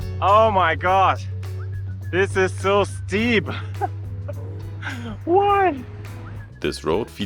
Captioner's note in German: lacht